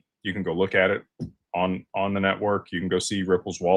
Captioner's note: none